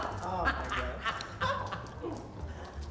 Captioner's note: laughs